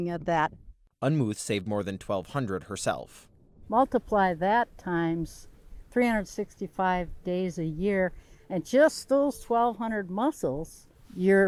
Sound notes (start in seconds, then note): 1.5 voice-over